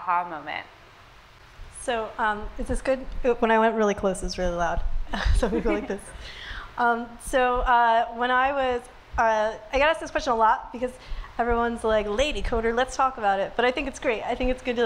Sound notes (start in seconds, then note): 5.2 laughs